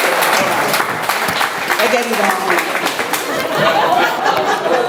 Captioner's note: audience laughs